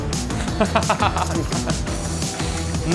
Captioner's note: laughter